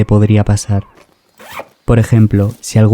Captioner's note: zipper